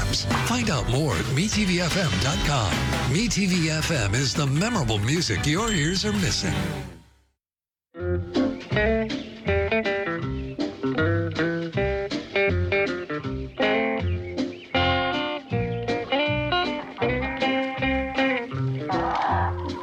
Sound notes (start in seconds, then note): 12.0 birds chirping; 17.9 chickens clucking